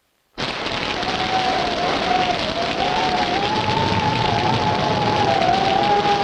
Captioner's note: rain pattering; wind howling